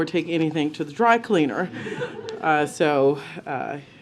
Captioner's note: laughter